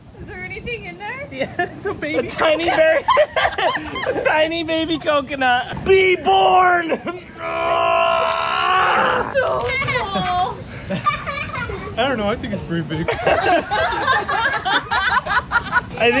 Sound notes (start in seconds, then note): 7.4 grunting; 13.0 everyone laughing